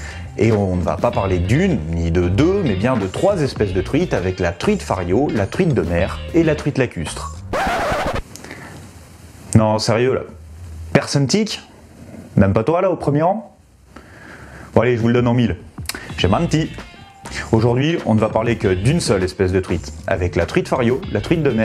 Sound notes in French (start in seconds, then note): 7.5 Son de platine